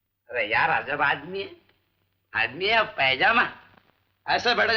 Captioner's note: none